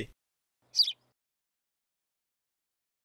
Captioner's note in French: chant d’oiseau